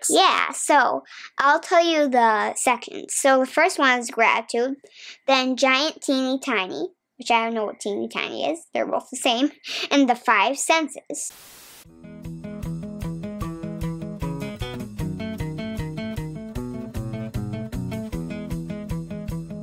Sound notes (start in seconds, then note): 11.2 TV static hisses; 11.9 upbeat music